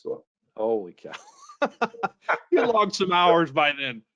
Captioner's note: both laughing